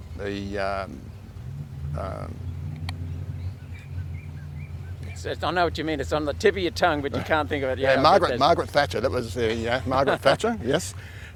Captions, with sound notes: the um... (birds chirping) - I know what you mean. It's on the tip of your tongue but you can't think of it. - Yeah, Margaret, Margaret Thatcher. That was Margaret Thatcher. Yes.